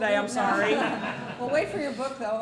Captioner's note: laughter